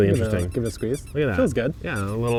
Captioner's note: orange squeaking